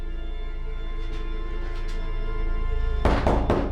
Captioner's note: door knocks